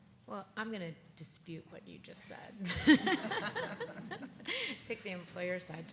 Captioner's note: laughs